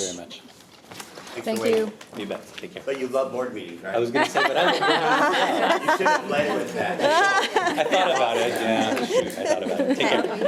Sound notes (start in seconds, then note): 4.1 all laughing